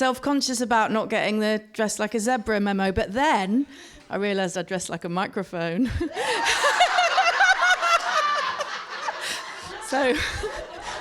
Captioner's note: laughter